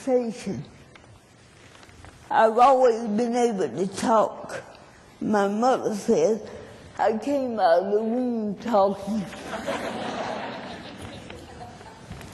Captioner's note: laughter